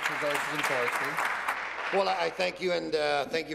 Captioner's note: applause